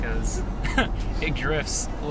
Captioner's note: chuckles